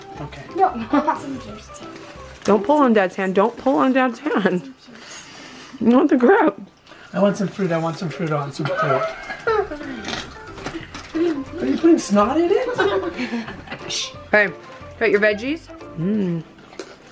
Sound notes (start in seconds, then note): 10.6 giggles; 12.4 laughs